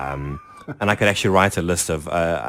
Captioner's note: laughs